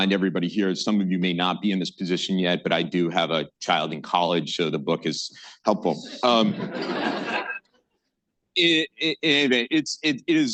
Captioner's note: laughter